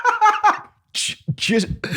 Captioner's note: laughter